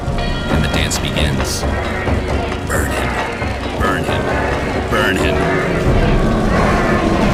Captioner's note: chanting